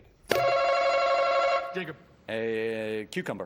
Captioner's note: button chimes